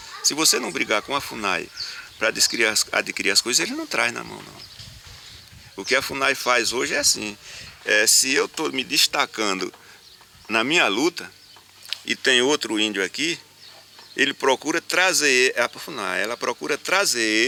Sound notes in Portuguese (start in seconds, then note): 4.9 Canto de pássaros; 7.0 Canto de pássaros